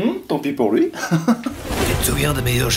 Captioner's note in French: rires